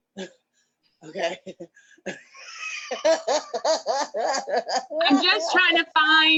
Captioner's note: laughs